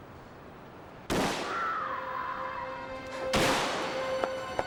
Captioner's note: gun firing; woman screaming; suspenseful music